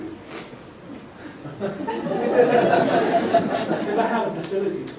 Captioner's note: laughter